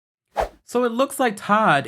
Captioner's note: graphics whoosh